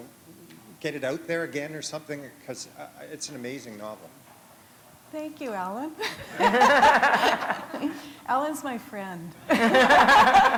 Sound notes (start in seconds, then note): 6.0 laughter; 9.4 laughter